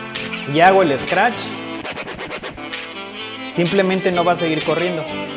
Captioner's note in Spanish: scratch